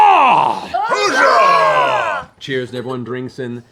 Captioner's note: cheering